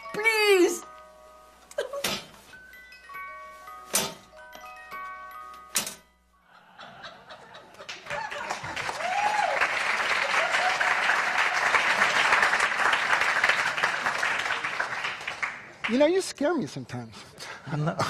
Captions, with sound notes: Please! [gently chiming bells] [audience laughing] [audience cheering] - You know you scare me sometimes. - Oh no.